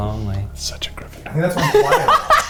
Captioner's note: whispers; laughs